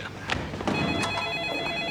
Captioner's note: phone ringing